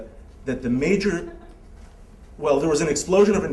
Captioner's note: laughter